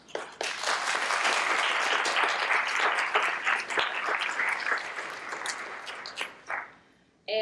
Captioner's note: applause